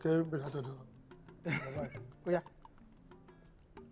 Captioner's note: laughs